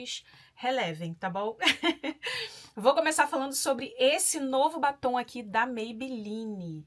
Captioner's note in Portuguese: risadas